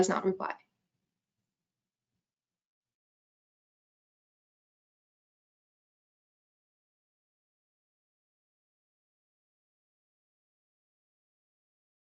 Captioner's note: silence